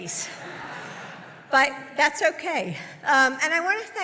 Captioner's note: laughter